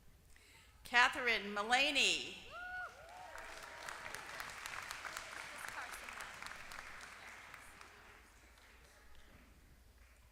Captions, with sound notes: Katherine Mullaney. >> [APPLAUSE]